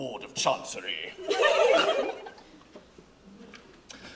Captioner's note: fairies laugh